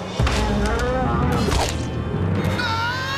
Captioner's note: roaring; screaming